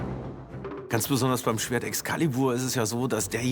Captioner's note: in German